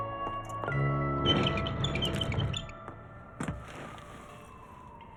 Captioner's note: rack wheels squeaking